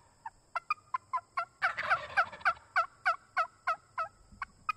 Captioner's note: turkey calling